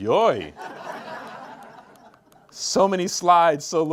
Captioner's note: group laughs